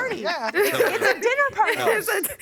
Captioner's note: laughing